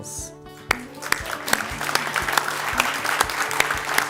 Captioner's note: ^applause^